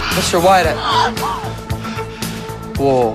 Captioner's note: gasps